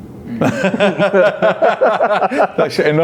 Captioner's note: all laugh